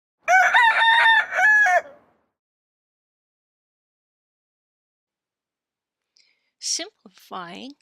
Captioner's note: rooster Crowing